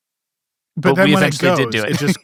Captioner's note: laughs